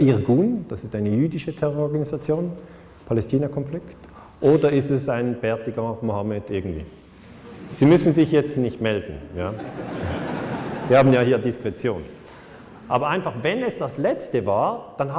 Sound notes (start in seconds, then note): 9.5 laughter